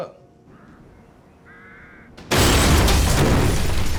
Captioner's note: bird squawks